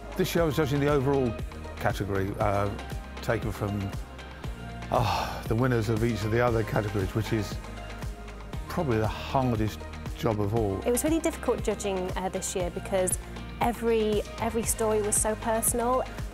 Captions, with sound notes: This year I was judging the overall category taken from... (sigh) the winners of each of the other categories, which is probably the hardest job of all. It was really difficult judging this year because every story was so personal.